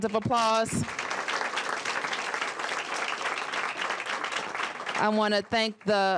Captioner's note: applause